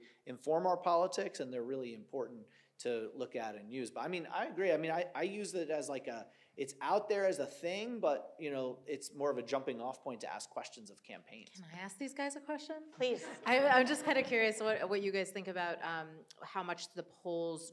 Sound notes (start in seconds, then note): 13.0 audience laughs